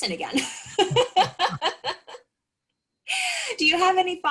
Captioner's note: laughs